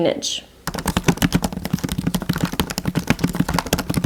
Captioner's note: keyboard taps